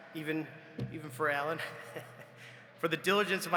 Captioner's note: laughs